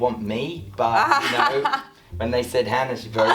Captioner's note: laughing